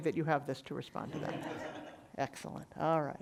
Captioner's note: audience laughing